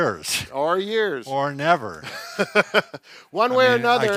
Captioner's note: laughing